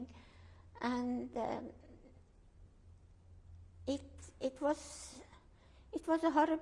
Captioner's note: pauses for 3 seconds